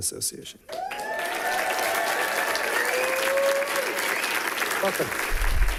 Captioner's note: people cheering and clapping